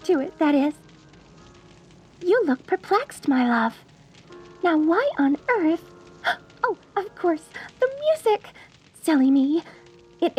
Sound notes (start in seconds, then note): none